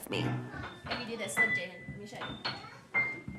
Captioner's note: none